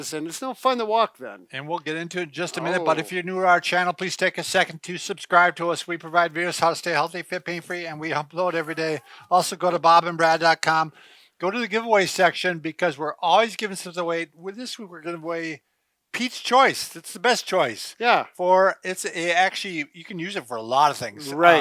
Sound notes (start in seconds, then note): 9.1 chuckles